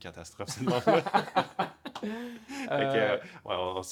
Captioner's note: laughs